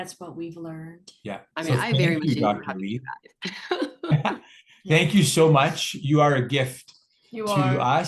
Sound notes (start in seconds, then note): 3.5 laughs